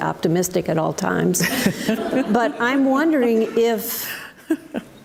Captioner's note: audience laughs